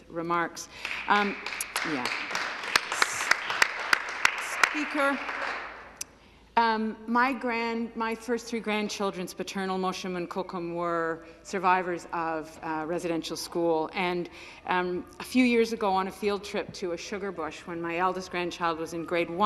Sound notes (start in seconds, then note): 4.9 some Applause